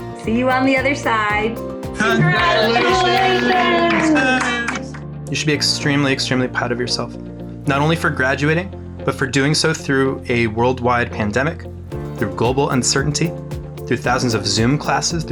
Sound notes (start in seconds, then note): 2.1 cheering; 2.6 clapping